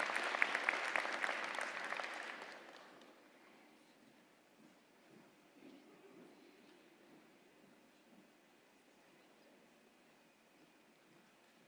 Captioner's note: applause